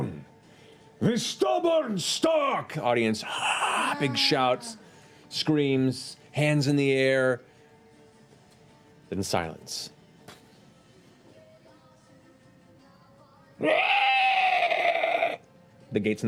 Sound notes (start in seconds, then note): 9.0 monster shriek